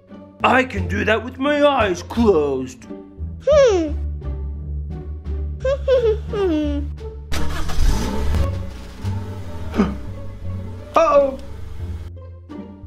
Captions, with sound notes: I can do that with my eyes closed! *gasp* Uh oh!